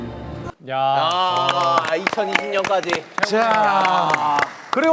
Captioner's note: applause